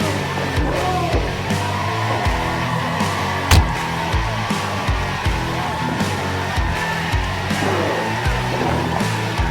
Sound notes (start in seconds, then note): 3.5 the sound from the massive hit to the head echoed loudly